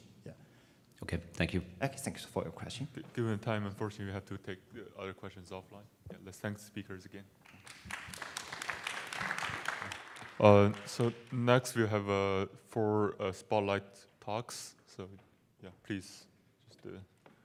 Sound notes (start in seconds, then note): 7.4 applause